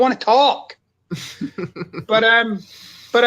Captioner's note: laughs